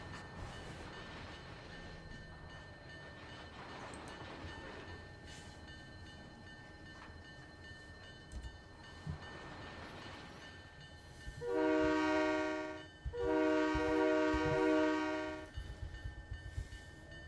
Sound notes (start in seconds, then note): 2.9 train whistle